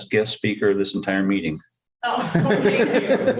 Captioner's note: laughter